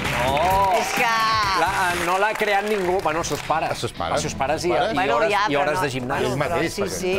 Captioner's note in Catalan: aplaudiments